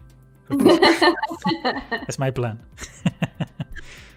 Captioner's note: laughter